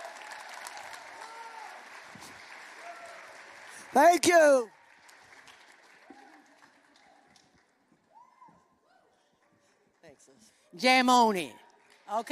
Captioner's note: applause